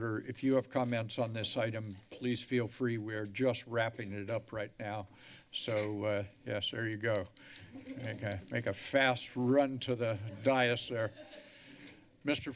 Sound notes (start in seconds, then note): 7.8 laughter